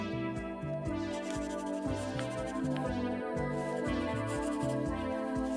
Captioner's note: pencil scribbling